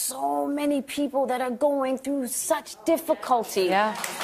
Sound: applause

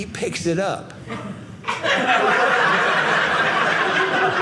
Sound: audience laughing

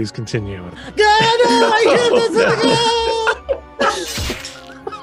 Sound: Jeremy Goodsex makes his final sounds

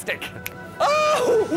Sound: click!

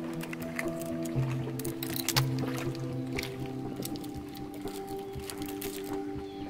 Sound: shellfish cracks; relaxing music

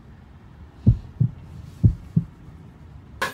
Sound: pounding heart

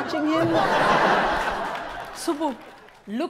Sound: audience laughs

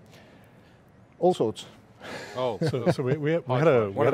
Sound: laughs

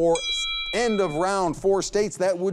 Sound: bell ringing

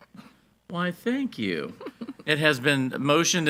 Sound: board Member chuckles

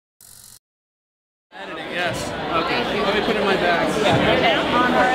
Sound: crowd ambience

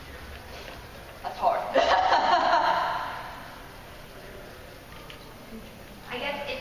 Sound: laughs

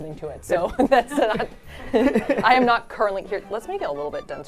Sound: all laughing

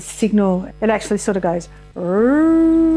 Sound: makes a whirring sound

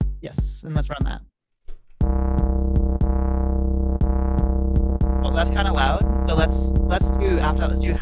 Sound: boom, boom, boom

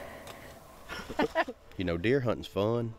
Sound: laughing

